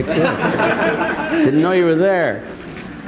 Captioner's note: audience laughing